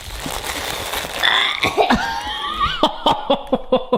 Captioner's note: inhaling air; coughing; laughing